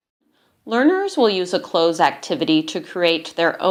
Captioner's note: voiceover